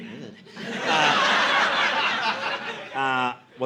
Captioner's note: audience laughing